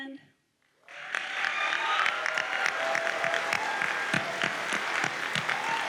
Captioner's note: audience cheers and applauds